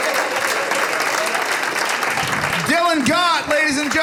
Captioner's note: audience laughing